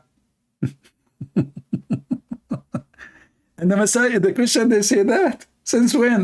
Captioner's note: Ketawa